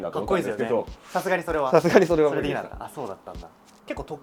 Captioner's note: laughs